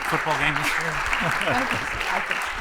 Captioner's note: chuckles